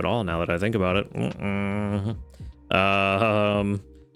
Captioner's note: groans